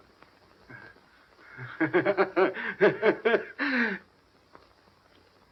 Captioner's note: laughing